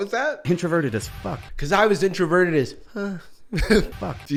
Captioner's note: whispers